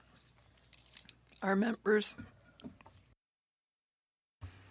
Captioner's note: speaking French